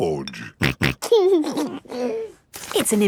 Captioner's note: snorting and giggling